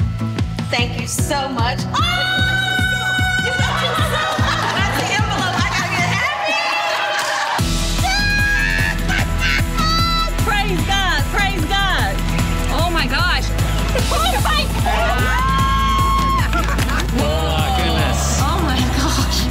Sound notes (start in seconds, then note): 1.9 yells; 4.5 laughing; 8.7 laughs; 13.8 all cheering